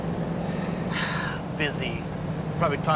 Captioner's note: sighs